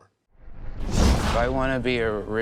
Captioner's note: whoosh